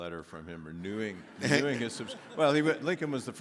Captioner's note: audience laughs